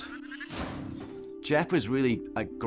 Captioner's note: crashes